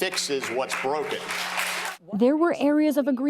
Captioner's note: applause